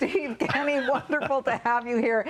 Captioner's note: laughter